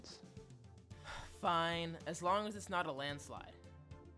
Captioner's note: sighs